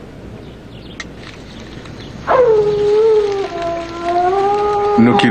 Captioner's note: coyote howling in distance